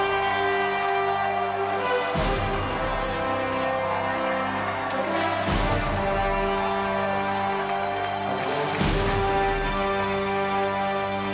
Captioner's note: cheering